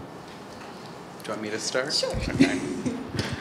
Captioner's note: laughs